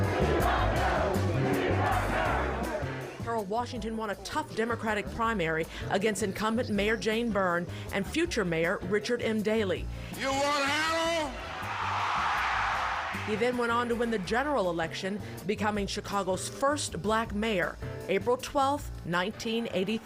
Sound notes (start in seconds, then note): 11.2 crowd shouting